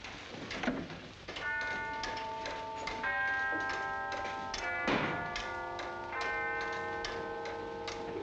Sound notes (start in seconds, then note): 1.4 church bells tolling